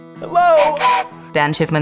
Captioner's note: toy train whistle